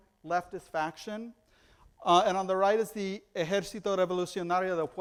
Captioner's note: foreign language